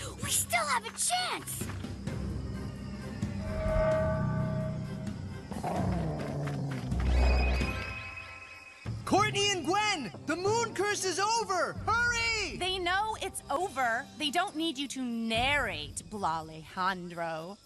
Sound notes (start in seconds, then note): 5.5 deer Growling